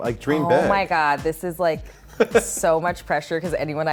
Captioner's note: laughs